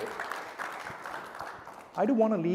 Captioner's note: applause